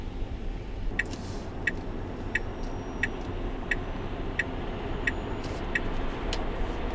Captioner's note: clicking of the turn indicator thingy